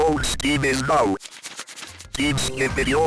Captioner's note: pages flipping